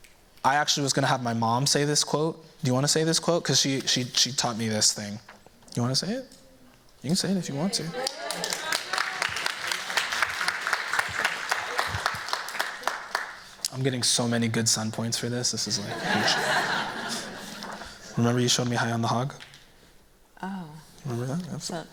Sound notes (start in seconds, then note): 7.8 cheers, applause; 15.8 laughter